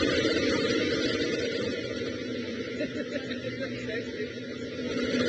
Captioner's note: crowd member laughs and mumbles